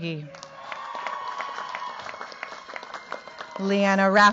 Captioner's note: cheers, applause